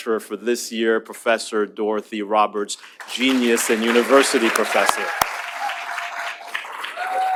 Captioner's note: applause